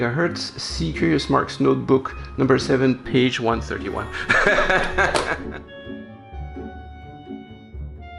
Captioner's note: laughter